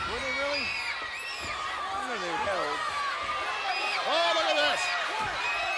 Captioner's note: fans screaming